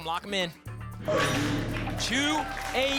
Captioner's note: lock sound